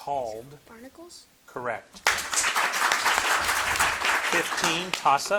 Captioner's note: audience clapping